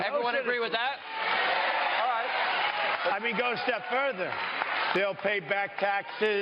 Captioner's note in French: Crowd cheers